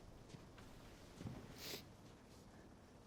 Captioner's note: sniffles